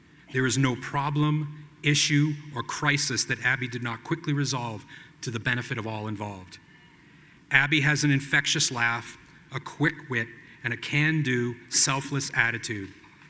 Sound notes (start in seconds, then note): none